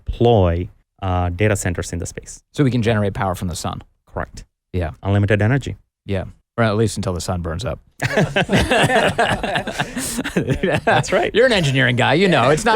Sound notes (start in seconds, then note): 8.0 group Laughing